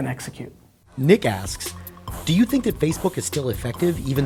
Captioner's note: voiceover